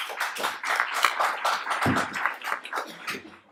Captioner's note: applauding